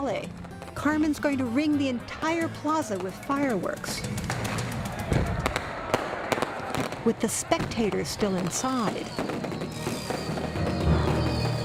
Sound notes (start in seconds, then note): none